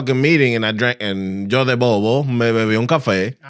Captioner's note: speaking Foreign Language